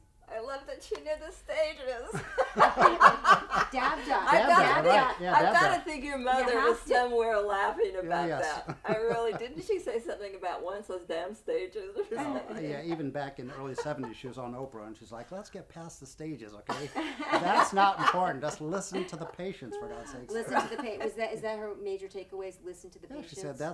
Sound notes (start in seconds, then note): 3.0 laughs; 16.7 laughing